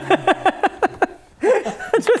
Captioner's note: laughing